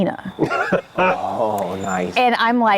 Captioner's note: laughs